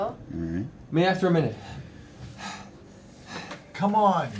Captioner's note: heavy breathing